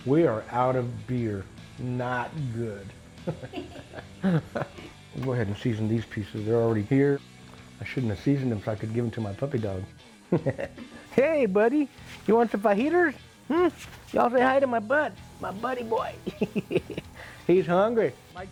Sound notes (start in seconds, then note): 3.2 chuckling; 10.3 chuckles; 15.8 laughs